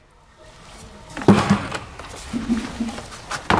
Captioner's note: rumble